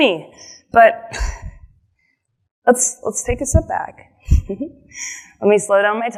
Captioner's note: giggles